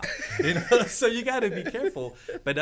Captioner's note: men laughing